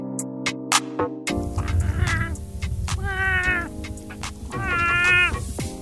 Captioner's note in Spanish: música perrona; sonidos malos de flamingo; música perrona